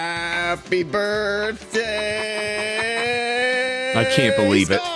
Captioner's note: hesitantly